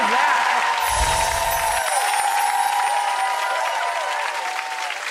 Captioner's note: audience clapping